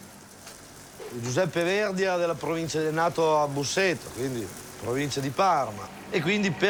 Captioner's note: speaks in foreign language